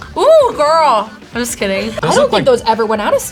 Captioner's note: both laugh